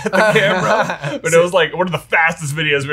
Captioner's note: laughs